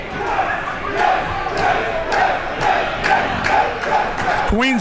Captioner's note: crowd chanting